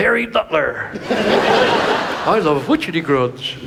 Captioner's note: audience laughs